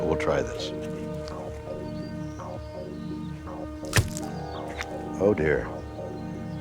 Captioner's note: intense music; tusk thumps